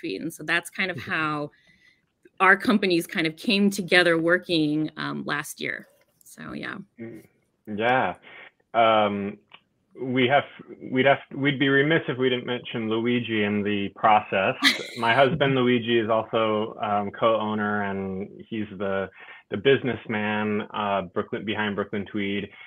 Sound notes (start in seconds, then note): 14.6 laughs